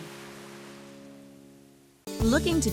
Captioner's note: waves crashing on beach